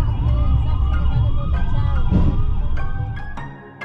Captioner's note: our bus’s beeping a lot